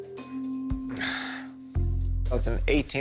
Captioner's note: Rick sighing